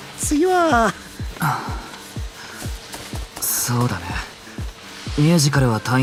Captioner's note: sigh